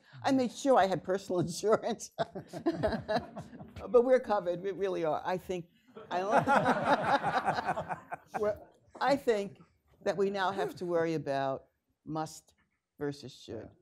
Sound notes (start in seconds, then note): 6.3 laughing